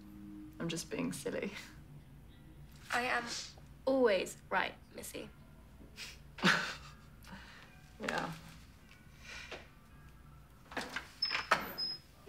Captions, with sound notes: I'm just being silly. - I am always right, Missy. - (chuckling) Yeah.